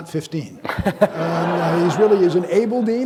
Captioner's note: audience laughing